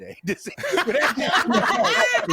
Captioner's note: laughter